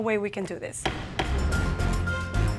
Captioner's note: gavel striking block; gentle dramatic music